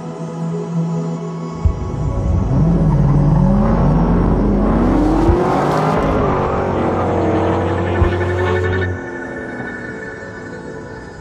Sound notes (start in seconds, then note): 1.6 engine roaring